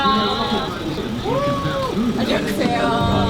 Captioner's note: cheers